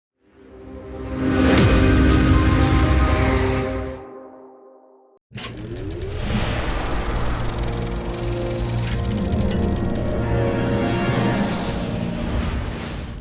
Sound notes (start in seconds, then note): 0.6 sweeping electronic hit; 6.0 dramatic music; 7.3 film reel flapping